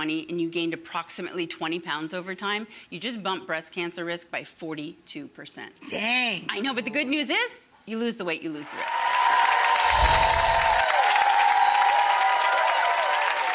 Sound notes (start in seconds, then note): 8.6 audience cheers; 9.7 sparkling; 9.8 whooshing